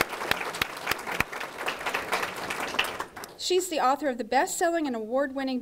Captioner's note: applause